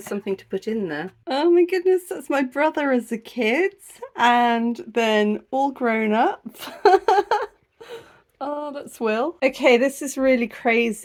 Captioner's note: laughing